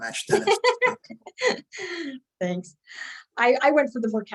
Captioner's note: laughing